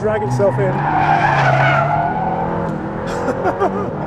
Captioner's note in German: quietschende Reifen